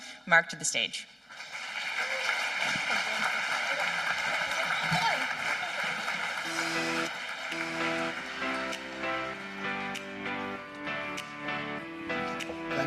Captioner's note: applause